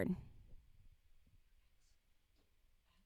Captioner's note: silence